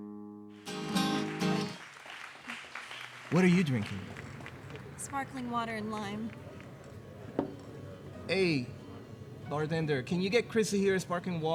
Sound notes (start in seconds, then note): 0.5 crowd applauds